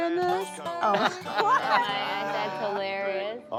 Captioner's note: group laughing